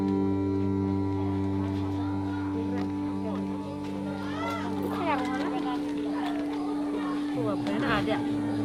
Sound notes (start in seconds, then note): 3.0 people chatter; 5.4 foreign language